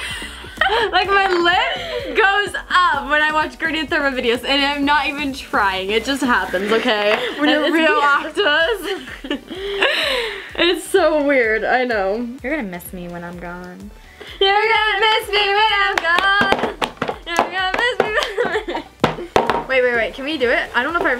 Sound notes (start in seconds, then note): 0.0 laughs; 9.2 both laugh